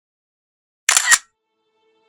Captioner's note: camera click